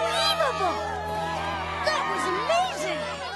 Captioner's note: all cheering